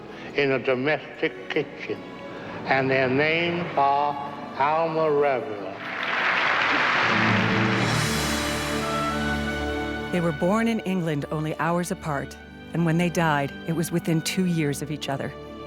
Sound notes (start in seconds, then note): 5.7 crowd applauding